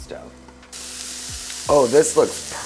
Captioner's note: pan hissing